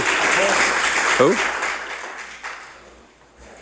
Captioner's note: applause